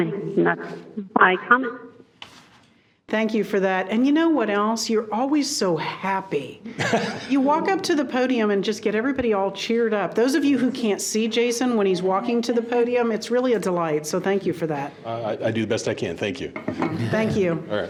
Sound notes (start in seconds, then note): 6.8 laughs